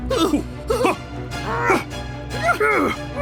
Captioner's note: gasping; dramatic string orchestra music